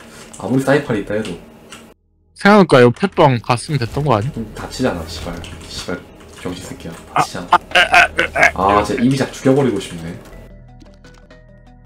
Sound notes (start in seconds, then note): 7.4 low IQ sounds